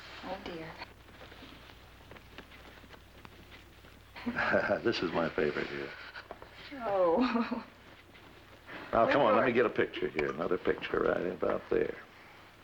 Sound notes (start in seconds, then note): 4.2 chuckles; 7.0 laughs